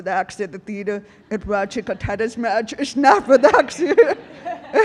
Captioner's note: audience laughing; laughs